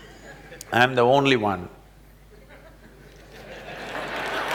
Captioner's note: laughter/Applause